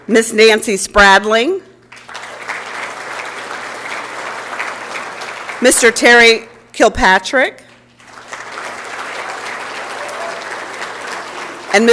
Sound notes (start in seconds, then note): 1.8 applause; 7.9 applause and Cheering